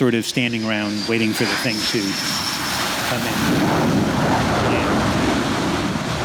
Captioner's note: jet roaring